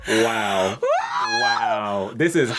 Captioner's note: exclaiming